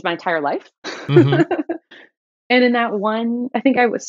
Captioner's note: laughter